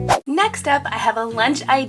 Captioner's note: swish